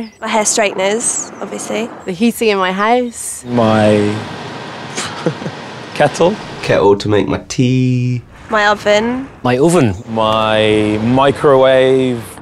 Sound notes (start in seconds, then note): 4.9 laughs